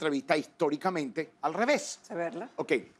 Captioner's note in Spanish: habla al revés